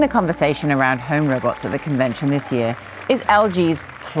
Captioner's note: people clapping